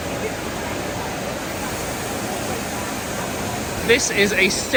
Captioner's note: machinery whirring drowns out speaking